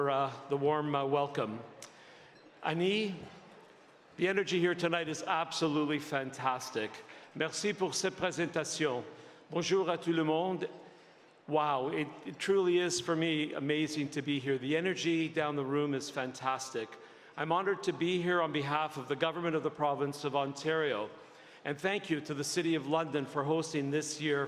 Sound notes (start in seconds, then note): 12.7 speaking French